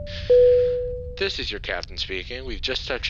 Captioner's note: voiceover